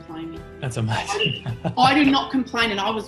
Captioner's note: laughs